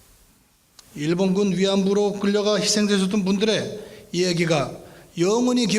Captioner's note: speaking in foreign language